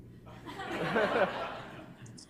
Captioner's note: laughter